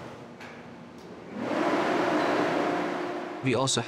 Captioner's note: loud fan turning on